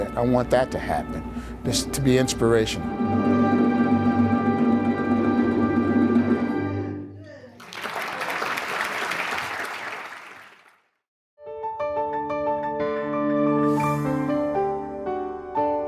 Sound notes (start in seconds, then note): 7.5 audience applauding; 11.6 gentle music